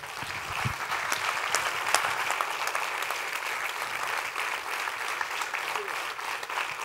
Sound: applause

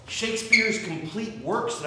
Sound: none

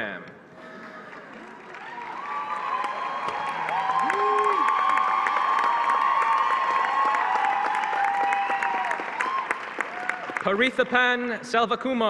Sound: applause

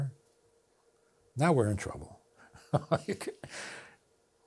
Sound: laughs

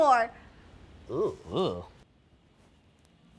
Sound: groans in disgust

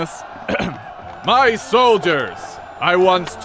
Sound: ahem

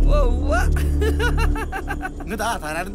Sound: laugh

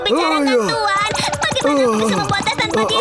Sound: Steam Bun yelps; Wilk gasps

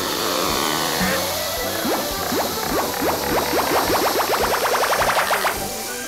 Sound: popping

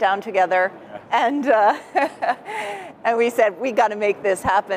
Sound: laughs

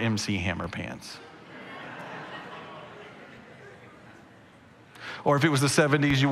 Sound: congregation laughing

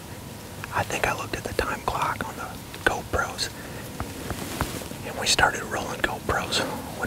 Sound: whispering

